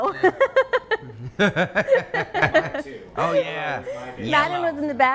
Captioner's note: woman laughing